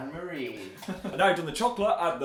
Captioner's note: Phil giggles